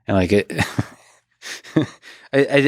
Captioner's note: laughs